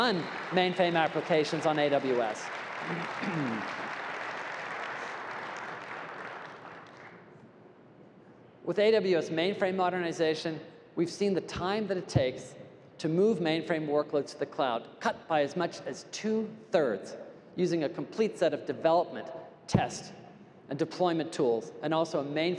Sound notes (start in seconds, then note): 3.5 applause